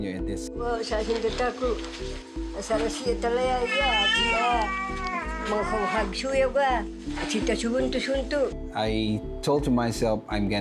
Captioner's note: speaking Filipino